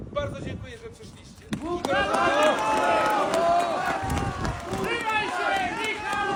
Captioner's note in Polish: Aplauz